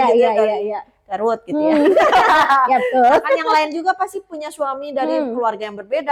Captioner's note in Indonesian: tertawa